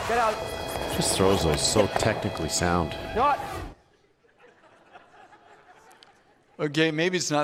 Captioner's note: audience laughs